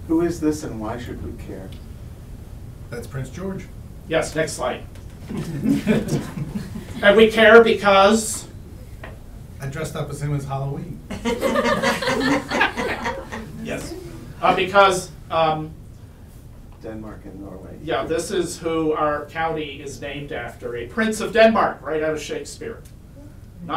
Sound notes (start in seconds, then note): 11.1 audience laughs